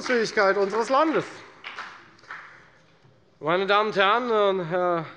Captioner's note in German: Beifall bei der FDP